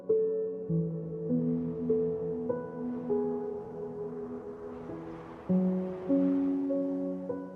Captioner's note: gentle music continues; wind blowing